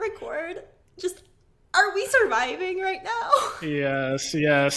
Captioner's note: laughing